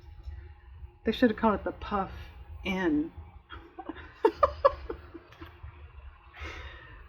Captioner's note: laughs